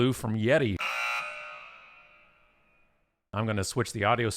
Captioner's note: alarm blares